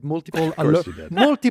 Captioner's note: laughs